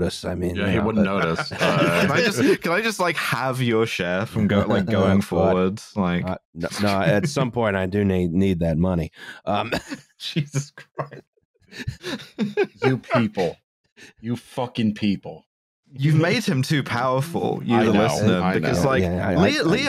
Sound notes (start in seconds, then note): 0.9 laughter; 4.2 chuckles; 11.7 laughing